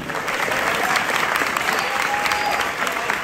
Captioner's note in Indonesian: tepuk tangan